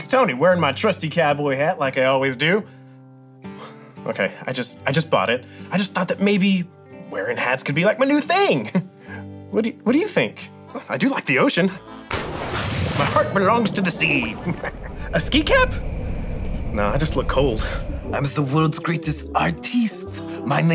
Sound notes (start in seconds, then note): 12.0 waves whooshing; 14.2 laughing